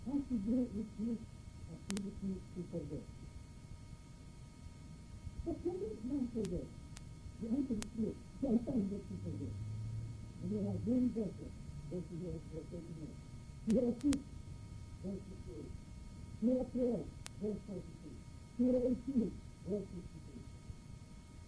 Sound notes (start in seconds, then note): 13.8 speaking in foreign language